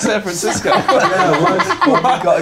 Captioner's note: laughing